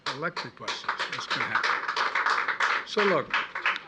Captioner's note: applause